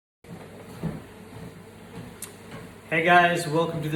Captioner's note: treadmill buzzes